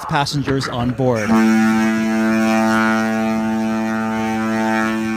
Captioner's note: ship horn blowing